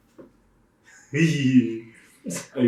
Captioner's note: excited chuckle